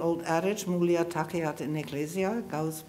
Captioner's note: speaking in foreign language